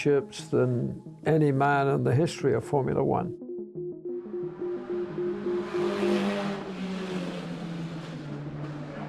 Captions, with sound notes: than any man in the history of Formula 1. (car engines roaring)